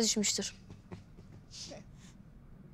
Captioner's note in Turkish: Gülme sesi